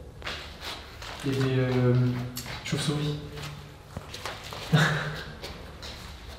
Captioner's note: nervous laughter